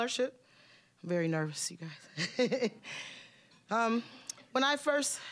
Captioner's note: chuckling